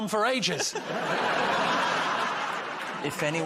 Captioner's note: laughter